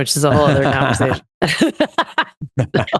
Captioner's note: laughs